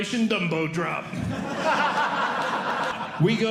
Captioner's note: audience Laughing